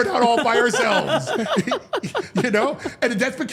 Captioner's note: all laughing